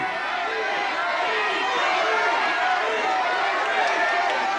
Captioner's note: audience shouts